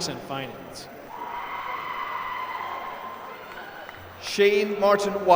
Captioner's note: applause